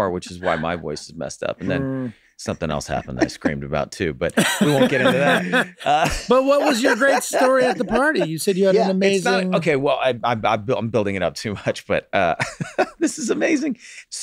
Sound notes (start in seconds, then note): 4.3 group laughs; 12.2 chuckles